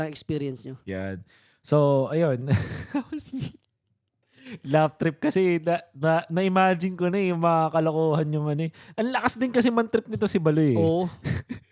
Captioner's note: laughs